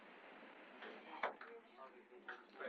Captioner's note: people chattering